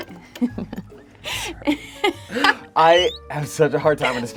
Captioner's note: laughs